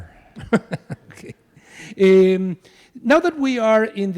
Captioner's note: laughs